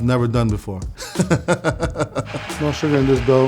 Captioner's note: laughing